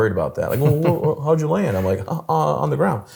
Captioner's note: laughs